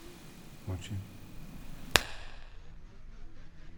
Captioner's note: snaps fingers